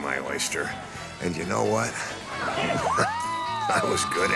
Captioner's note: chuckles